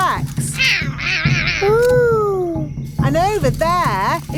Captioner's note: roaring